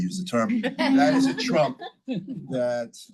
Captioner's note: all laugh